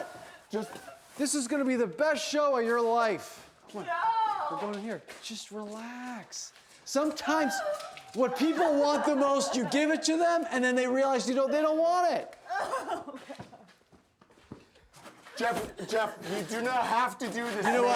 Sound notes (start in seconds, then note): 12.7 sobbing